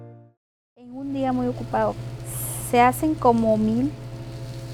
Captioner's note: speaks in Spanish